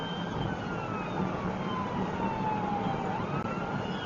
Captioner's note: police car siren